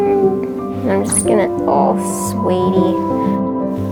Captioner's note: Moon vocalises